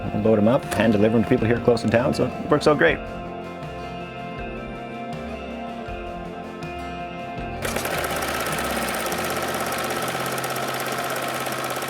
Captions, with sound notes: We'll load 'em up, hand deliver them to people here close in town, so it works out great. (gentle music) (sewing machine whirring)